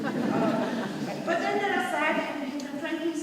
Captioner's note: audience laughing